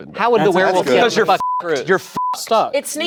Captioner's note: beep